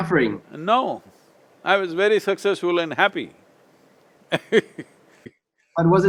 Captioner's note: laughs